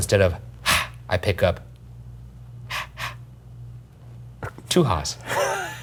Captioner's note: exhales softly; exhales softly twice; laughing